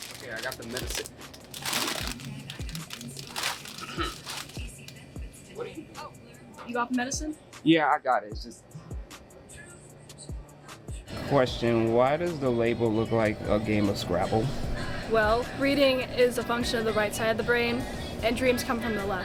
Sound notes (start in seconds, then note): 3.8 clears throat